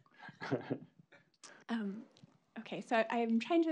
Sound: laughs

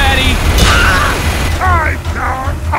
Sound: The M19A1 groans

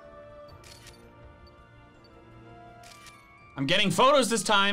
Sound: photo snapping

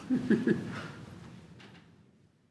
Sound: laughs

